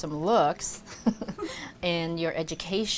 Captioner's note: laughs